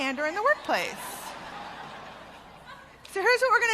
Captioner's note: laughter